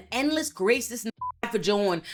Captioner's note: beep